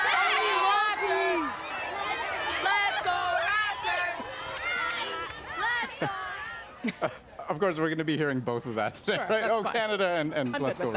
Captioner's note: applause